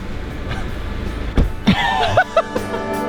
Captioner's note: laughing